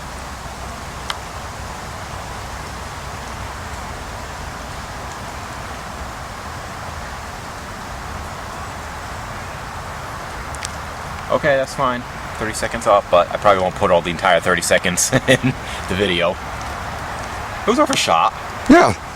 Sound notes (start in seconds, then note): 0.8 click